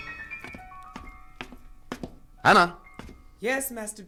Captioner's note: footsteps